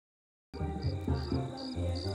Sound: grillos

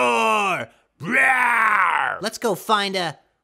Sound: yet another incredible roar

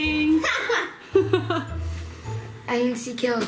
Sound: laughing

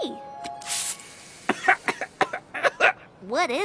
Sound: hiss,coughing

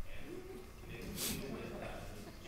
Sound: laughter

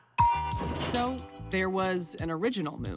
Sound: elevator dings

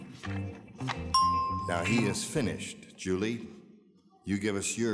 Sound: bell dings

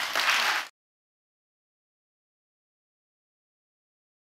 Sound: audience applauds

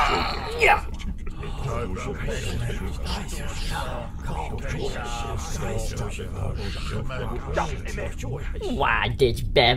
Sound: Klingon shocked muttering

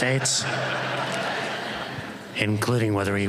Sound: laughter

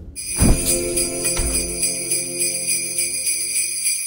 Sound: sleigh bells ringing

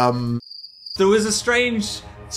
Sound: crickets chirp

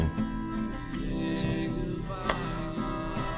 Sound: popping noise with mouth

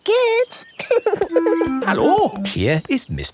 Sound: laughing

